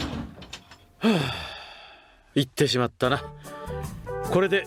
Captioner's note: sigh